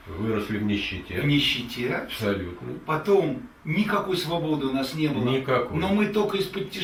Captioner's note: speak in the Russian language